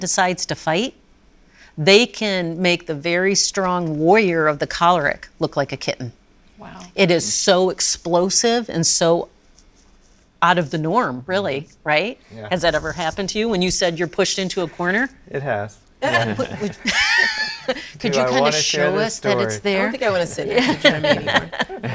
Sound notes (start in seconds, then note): 16.0 all laughing